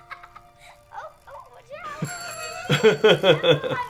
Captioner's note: bicycle ring dings